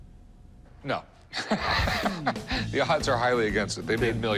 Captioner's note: laughs